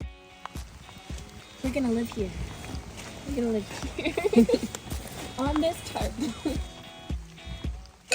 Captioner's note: laughs